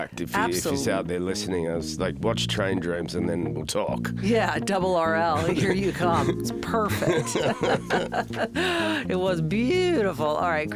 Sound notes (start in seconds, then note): 7.8 both laugh